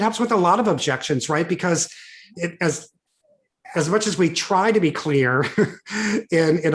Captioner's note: chuckles